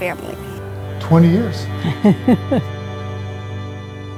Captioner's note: laughter